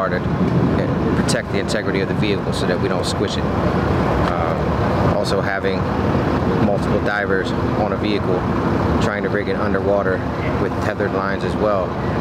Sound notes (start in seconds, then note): none